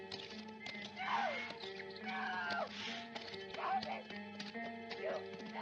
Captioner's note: women screaming in the distance